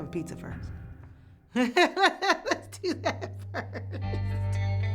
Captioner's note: laughs